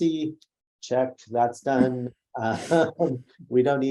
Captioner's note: laughs